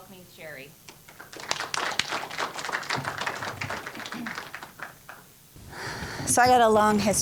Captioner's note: applause